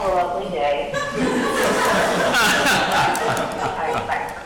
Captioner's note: audience laughing